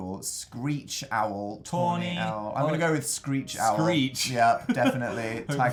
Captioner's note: chuckles